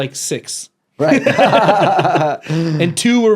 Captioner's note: both laughing